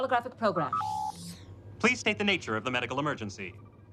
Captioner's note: beeping